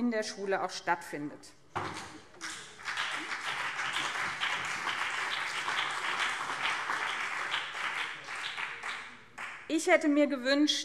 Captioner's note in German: Beifall BÜNDNIS 90/DIE GRÜNEN und CDU